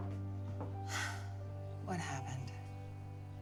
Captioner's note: Cara sighs